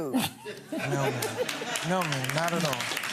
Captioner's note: gallery laughs